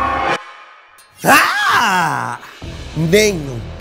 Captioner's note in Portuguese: música de tensão; gritando